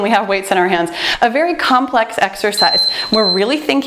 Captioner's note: timer beeps